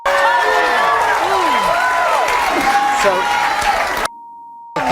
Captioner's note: audience cheering; audience applauding; audience cheering